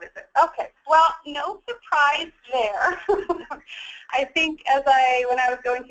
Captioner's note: laughs